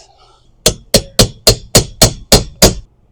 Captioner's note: hammer banging